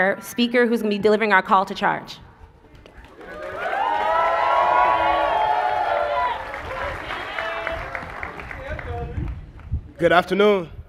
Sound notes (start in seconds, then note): 7.5 applause; 9.0 cheers and applause